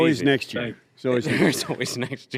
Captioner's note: laughter